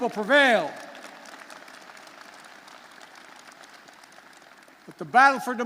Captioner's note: applause